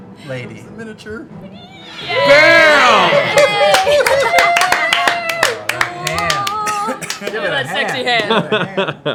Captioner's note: cheering